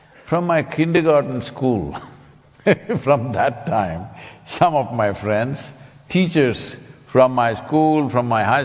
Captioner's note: laughs